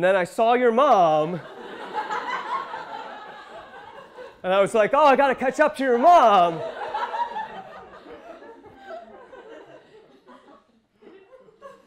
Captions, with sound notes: And then I saw your mom. (audience laughing) And I was like, ah, I gotta catch up to your mom. (audience laughing)